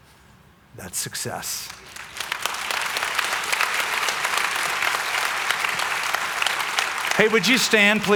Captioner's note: applause